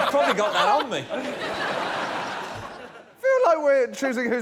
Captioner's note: laughter